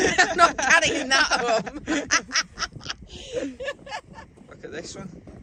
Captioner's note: laughing